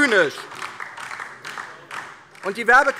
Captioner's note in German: Beifall DIE LINKE - Zurufe AfD: Unglaublich!